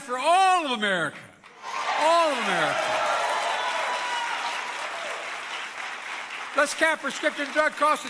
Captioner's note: applause